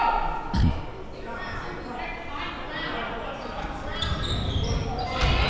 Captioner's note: crowd murmuring